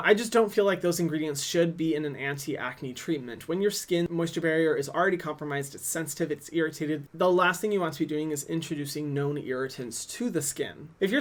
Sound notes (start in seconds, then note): none